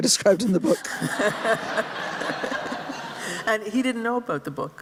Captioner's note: laughter